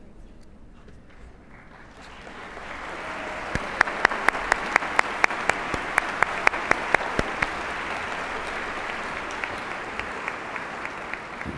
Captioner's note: applause